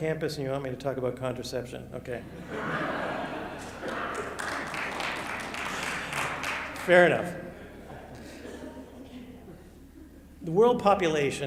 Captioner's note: applause